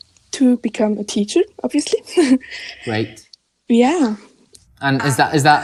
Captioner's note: chuckles